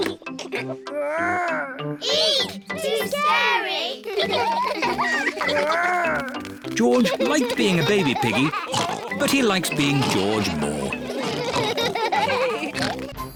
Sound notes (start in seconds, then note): 0.0 giggles; 6.8 all laugh